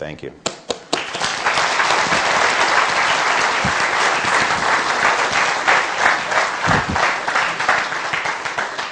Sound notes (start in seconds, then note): 0.8 applause